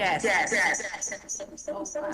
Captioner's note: “Yes” echoes